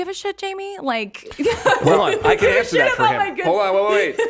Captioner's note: laughs